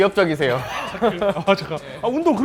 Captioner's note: awkward chuckle